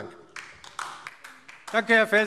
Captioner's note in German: Beifall DIE LINKE